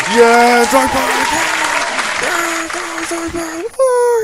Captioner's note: clapping cheeks fades